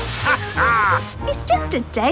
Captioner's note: captain dog laughs